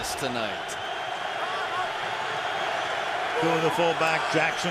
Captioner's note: cheering